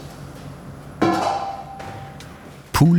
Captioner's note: clattering